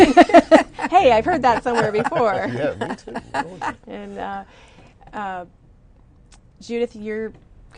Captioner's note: laughter